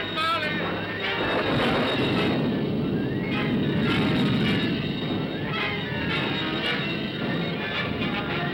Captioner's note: dramatic ominous music; thunder rumbles; dramatic ominous music